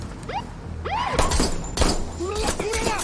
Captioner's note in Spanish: Disparos